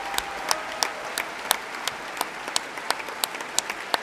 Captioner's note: applause